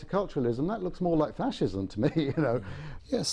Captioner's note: laughs